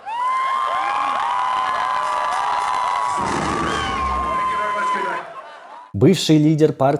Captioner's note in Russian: ликование; крик